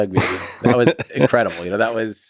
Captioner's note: Lex laughs